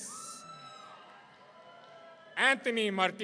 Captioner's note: audience cheering